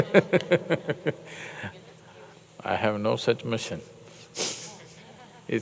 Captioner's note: laughs